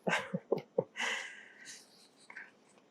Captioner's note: laughing